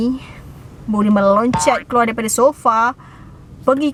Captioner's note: boink sound effect